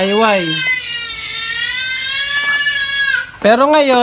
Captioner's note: baby sounds